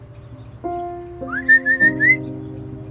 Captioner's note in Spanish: Silbidos